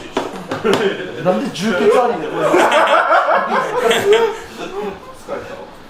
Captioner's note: laughs